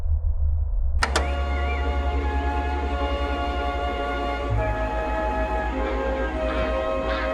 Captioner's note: clicking sound; bright music; creatures squawking